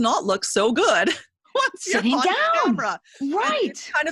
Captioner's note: laughs